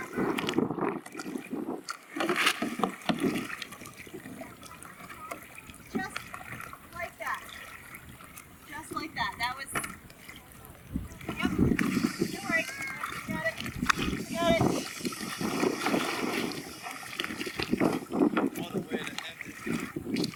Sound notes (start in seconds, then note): 0.1 water splashes; 13.7 wind whooshing